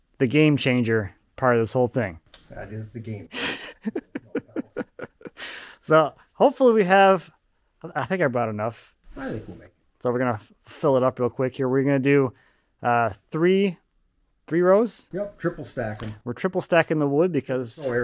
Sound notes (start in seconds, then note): 3.2 laughing